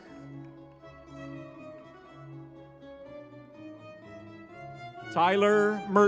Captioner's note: crowd cheering; lively music